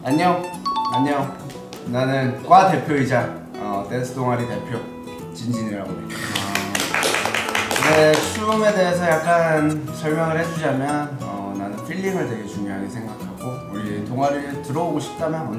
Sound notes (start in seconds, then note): 6.1 round of applause